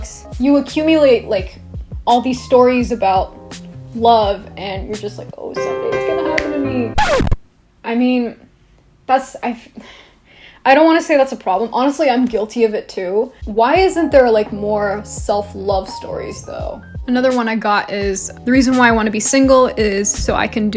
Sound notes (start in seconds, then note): 5.5 dramatic piano music; 5.5 piano music ends; 6.9 record scratch